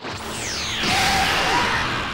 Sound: energy blast; screams of indescribable anguish

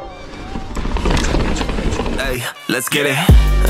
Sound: tires rumbling

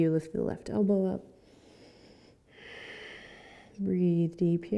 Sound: breathing

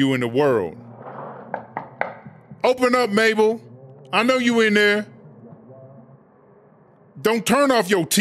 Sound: knock

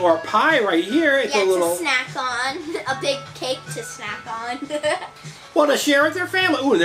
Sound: chuckles

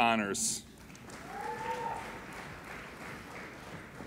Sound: applauding

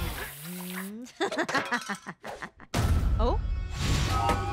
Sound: laughing

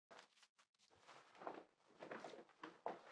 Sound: clothes rustling

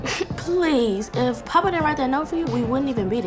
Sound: laughing

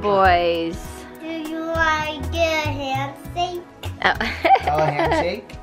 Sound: laughs

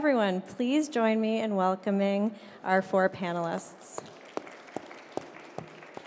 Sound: applause

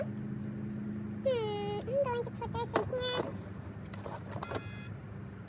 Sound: horn honks

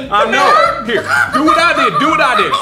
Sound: chicken noises

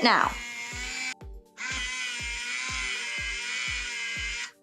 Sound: machine whirs

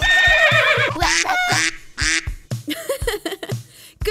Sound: neighing; quacking; laughs

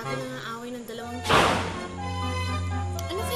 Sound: door slams

